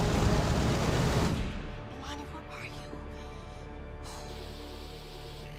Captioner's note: sighs